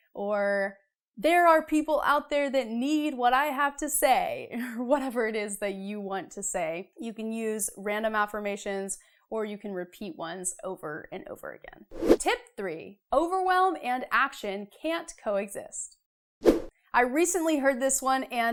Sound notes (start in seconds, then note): 11.9 frame whooshes; 16.4 frame whooshes